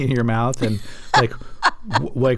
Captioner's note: laughter